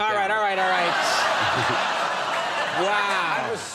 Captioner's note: audience laughing